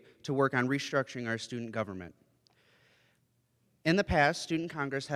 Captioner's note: none